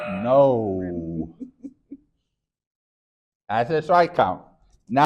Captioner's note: chuckles